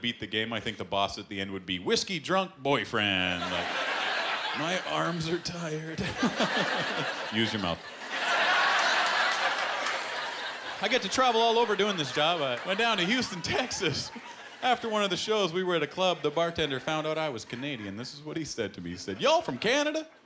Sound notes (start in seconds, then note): 8.2 laughter